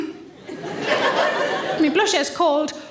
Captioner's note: audience laughs